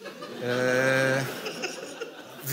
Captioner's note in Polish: śmiech